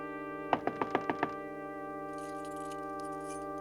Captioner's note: knocking at door; keys jingling